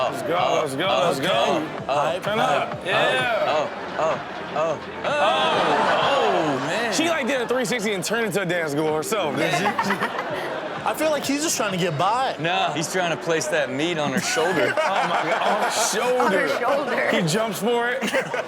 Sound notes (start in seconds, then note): 9.3 Chanel and audience laughing; 14.0 all laughing; 16.7 laughing